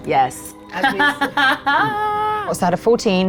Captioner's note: laughs